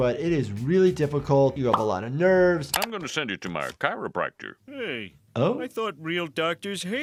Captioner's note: none